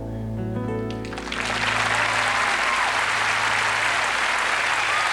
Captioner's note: applause